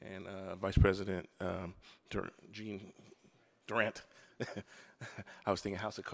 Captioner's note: laughs